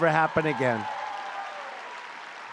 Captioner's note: applause